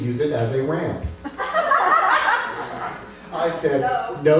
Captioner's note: laughter